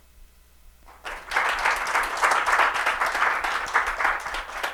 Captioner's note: applause